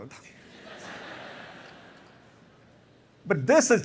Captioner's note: laughter